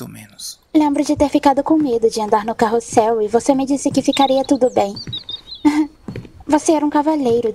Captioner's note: laugh